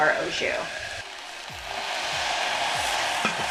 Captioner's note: sizzling